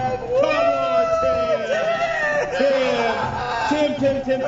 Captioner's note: hooting